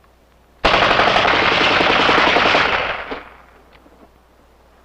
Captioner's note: gunfire